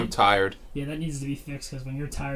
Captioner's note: chuckles